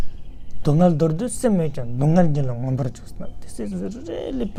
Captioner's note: tibetan